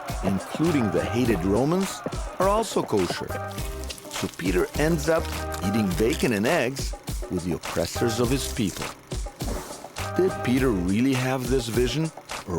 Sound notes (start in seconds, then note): 0.0 crowd cheering; 4.0 sizzling